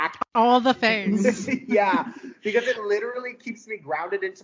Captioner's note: laughing